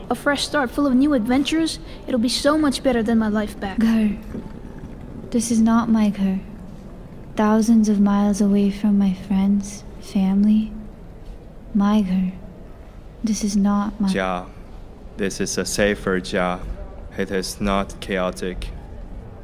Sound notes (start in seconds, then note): 5.5 in Urdu; 11.6 in Urdu; 14.0 Mandarin; 16.0 in Mandarin